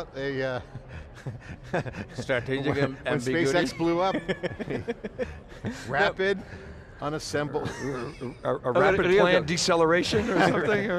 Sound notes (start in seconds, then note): 0.7 laughing; 7.9 laughs